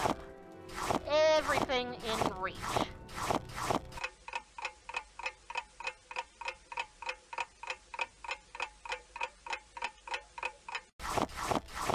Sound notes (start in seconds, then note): 3.6 ticking clock